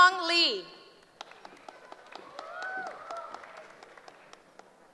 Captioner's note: applause